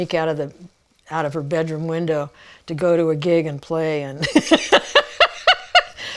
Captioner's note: laughing